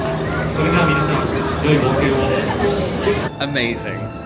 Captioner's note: people talking